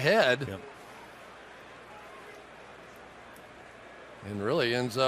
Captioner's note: onfield chatter